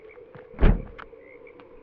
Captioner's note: trunk slams